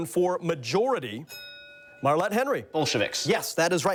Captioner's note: bell dings